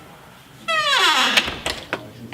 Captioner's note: squeaky door closing